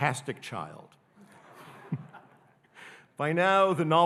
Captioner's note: audience laughing